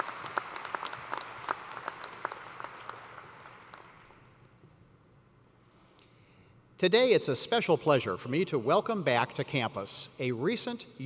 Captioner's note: applause